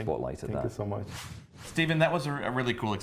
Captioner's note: swishing noise